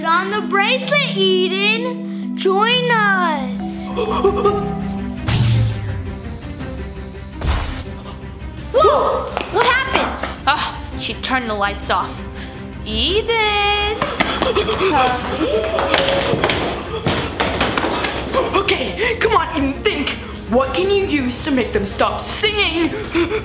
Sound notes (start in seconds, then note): 4.1 gasps; 5.2 laser blasts; 7.5 light bulb fizzles; 14.0 gasps; 23.2 gasps